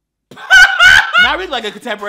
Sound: hysterical laughing

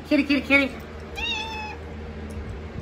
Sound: Caprice meows

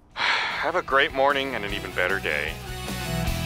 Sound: sighing

